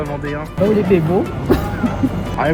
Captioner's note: Vendée dialect